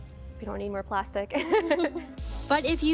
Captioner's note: chuckles